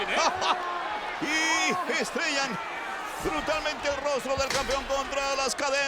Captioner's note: laugh